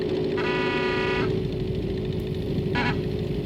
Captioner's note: car horn